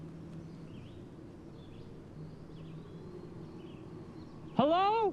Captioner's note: birds chirping